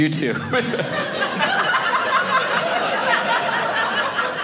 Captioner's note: audience laughing